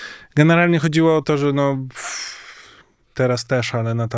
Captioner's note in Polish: westchnienie